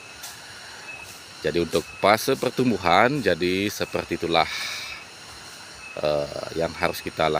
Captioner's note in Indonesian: menghela napas